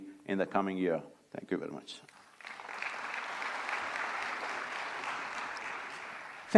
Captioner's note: applause